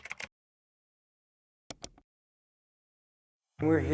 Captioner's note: keyboard clacking; mouse clicking